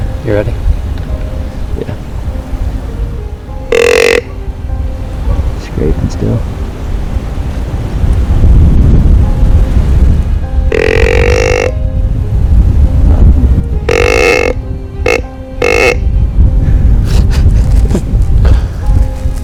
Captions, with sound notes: You ready? Yeah. [Sound of grunt call] Scraping still. [Sound of grunt call, louder] [Sound of grunt call, even louder] [Laughter]